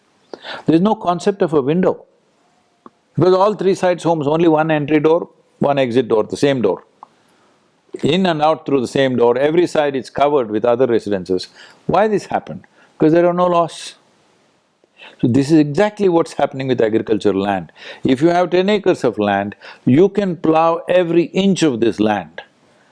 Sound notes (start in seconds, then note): none